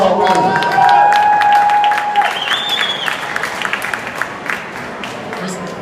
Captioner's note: applause